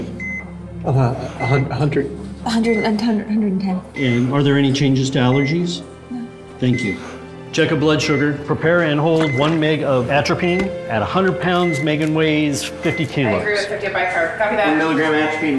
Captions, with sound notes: (stammering) About..100...100... (stammering) 110. 110. And are there any changes to allergies? No. Thank you. Check her blood sugar. Prepare and hold one mg of atropine. At 100 pounds, Megan weighs 50 Kilos. Bicarb Ready. Atropine ready and on hold.